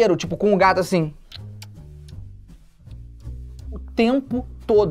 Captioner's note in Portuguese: som de beijo